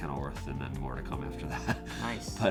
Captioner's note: laughs